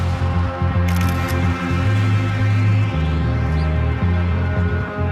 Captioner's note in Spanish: Clic de la cámara